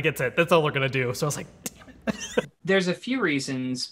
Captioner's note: laughs